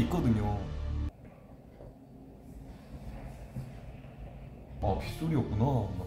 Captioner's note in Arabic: صوت خطى؟